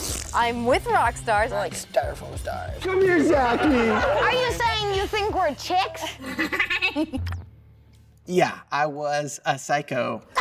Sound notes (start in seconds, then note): 6.2 laughs